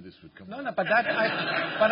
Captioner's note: laughter